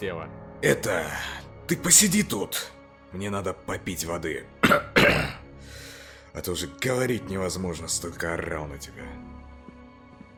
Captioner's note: cough